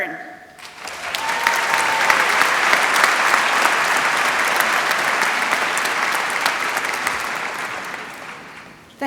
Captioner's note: applause